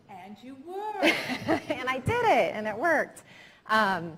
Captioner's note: all laughing